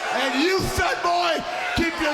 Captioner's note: crowd cheering